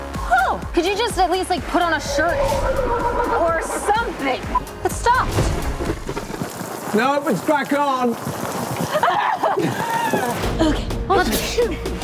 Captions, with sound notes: ROSALINE Oh. ROSALINE Could you just at least like put on a shirt... (Horse Whinnes) ROSALINE or something? ROSALINE It stopped. CREW Nope. It's back on. (Laughter) ROSALINE Okay. (Sneeze)